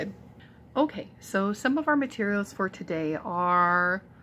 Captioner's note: voiceover